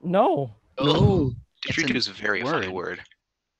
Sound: laughing

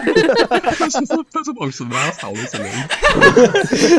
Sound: laughter

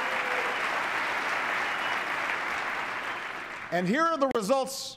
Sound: applause

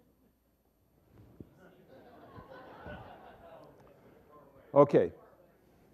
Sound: laughter

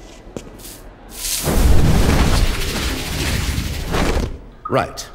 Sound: footsteps approaching; apparation sound

